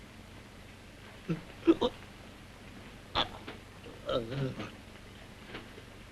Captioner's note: gurgling